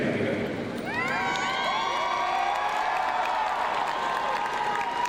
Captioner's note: crowd cheering